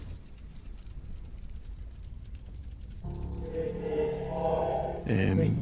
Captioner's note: high frequency hums